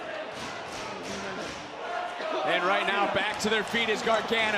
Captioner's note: cheering